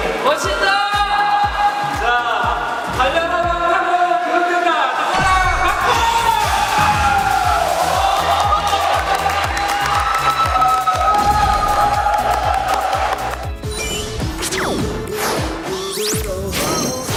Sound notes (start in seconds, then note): 7.9 clapping